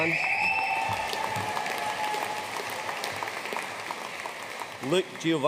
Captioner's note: audience cheering and applauding